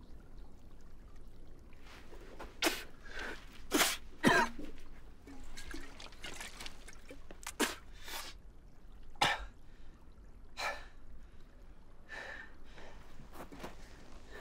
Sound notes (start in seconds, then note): 2.6 spitting; 4.2 coughs; 9.6 breathes heavily